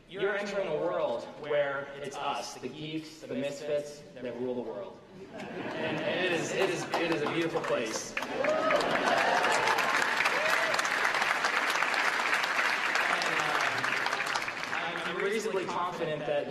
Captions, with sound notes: able to achieve what you want, as long as you are willing to fight for it. Second, you're entering a world where it's us, the geeks, the misfits that rule the world. [ LAUGHTER ] >> It is a beautiful place. [ CHEERS & APPLAUSE ]